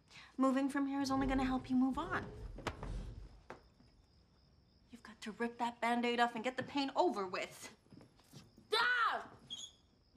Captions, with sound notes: Moving from here is only gonna help you move on. You've got to rip that Band-Aid off and get the pain over with. [yells]